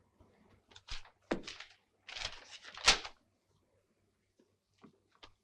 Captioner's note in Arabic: حفيف الورق